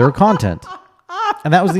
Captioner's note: laughs